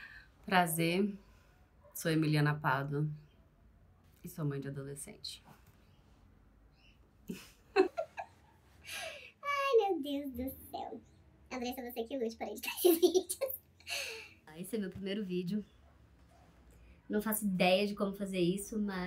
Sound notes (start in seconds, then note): 7.3 cute laugh